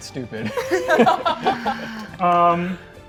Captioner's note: players laughing